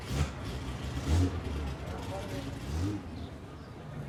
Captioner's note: engine starts